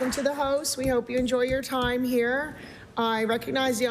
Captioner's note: applause